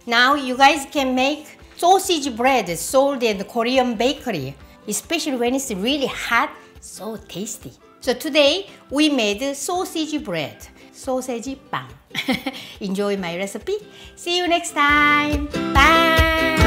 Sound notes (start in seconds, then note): 12.1 laughs